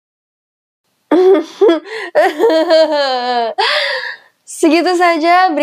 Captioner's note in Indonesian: laughing awkwardly